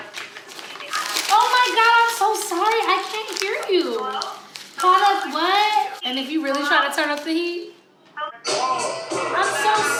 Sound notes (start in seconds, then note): 0.0 paper crunching; 5.2 paper rustling; 8.4 music blasting